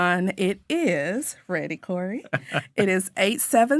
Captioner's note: laughing